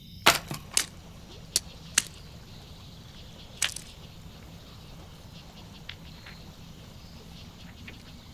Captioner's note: water gurgles from the stream